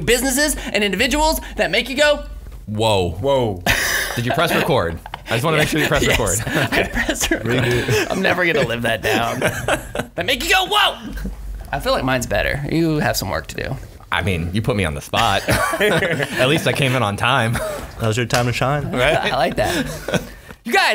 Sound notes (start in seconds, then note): 3.9 laughing